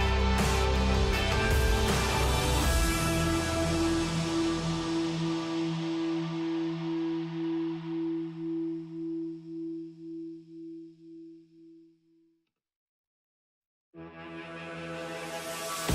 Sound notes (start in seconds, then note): none